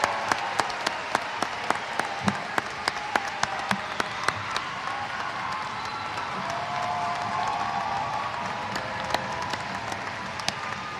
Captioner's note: applause